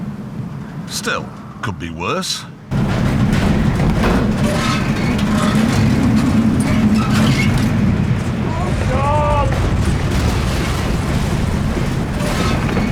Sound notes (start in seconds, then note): 2.7 howling wind; 5.3 rattling and banging